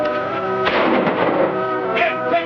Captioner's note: gunfire pops